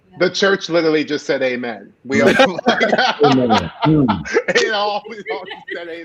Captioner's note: laughing